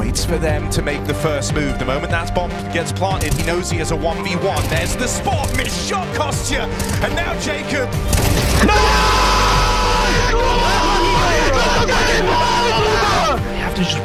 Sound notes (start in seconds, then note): 4.3 gun firing; 8.6 people cheering